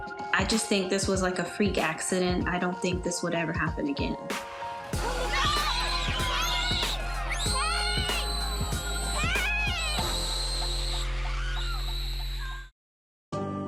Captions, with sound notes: I just think this was like a freak accident. I don't think this would ever happen again. [children screaming]